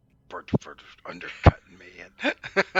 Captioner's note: grumbles